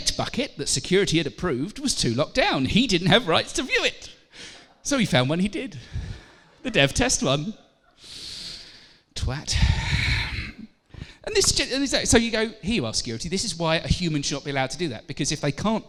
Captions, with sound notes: bucket, that security had approved, was to locked down and he didn't have rights to view it, so he found one he did: the dev test one... [inhales] twat! So you go, hear you are security, this is why a human should not be allowed to do that, because if they can't